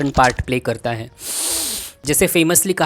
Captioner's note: breathes in